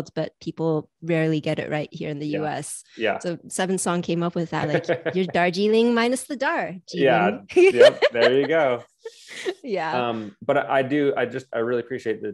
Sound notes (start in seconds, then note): 4.6 laughs; 7.0 laughing